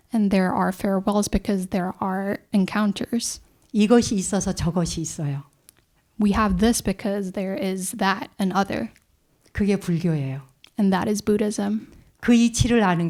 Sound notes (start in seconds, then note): 4.4 speaking in Korean; 10.1 speaking in Korean; 12.8 speaking in Korean